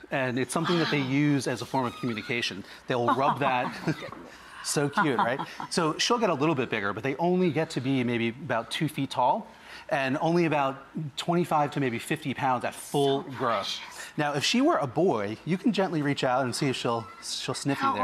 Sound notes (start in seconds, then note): 2.9 laughs